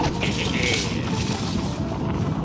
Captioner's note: laughs